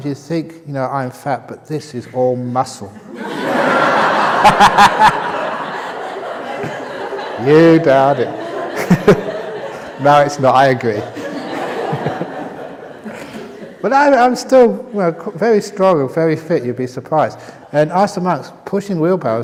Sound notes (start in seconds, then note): 3.0 laughter